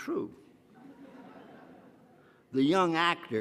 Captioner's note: audience laughs